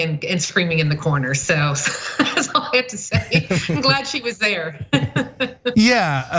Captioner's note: laugh